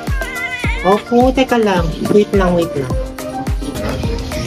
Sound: Meowi Meowing

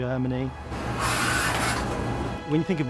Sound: train sparks

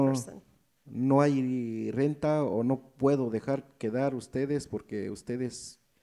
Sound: speaks in foreign language

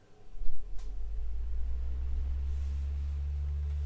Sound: fan humming

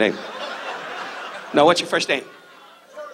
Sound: audience laughs

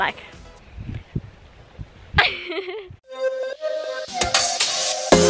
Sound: laughs; dance music

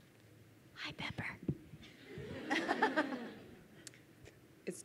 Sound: crowd laughs

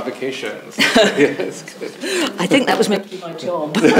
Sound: chuckles

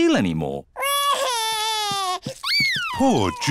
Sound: crying

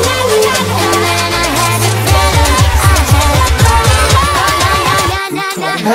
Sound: woo

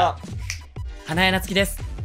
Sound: snap!

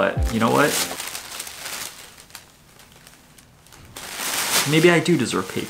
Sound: paper crinkling

